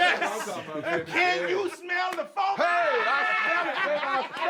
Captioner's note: all laughing